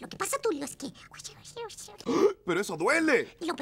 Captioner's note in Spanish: Susurros